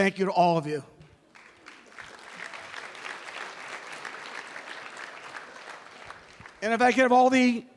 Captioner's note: applause